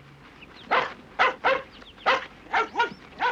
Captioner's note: barking